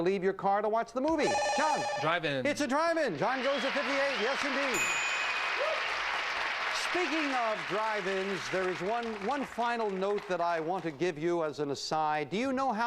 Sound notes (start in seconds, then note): 5.2 audience applauding